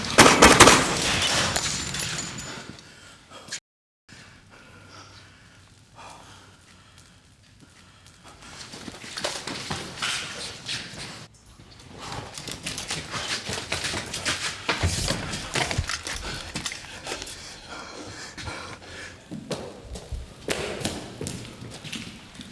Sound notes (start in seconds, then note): 0.0 gunshots popping; 5.2 fire crackling; 17.7 Anderson huffing